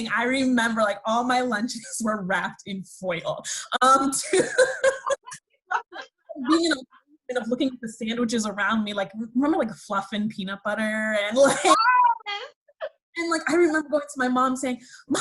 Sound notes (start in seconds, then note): 4.3 laughs